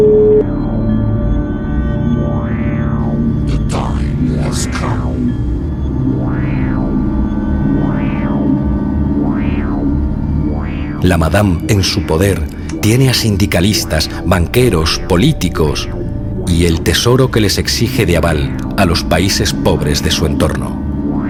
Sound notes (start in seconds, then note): 3.1 commands given in a distorted voice